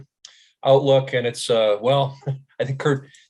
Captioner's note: chuckling